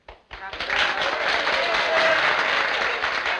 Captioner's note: applause